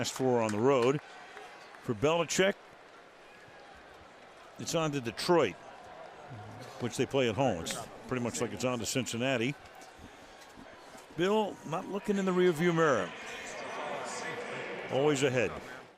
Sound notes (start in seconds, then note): 13.8 pa announcement